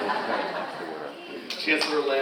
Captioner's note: all laughing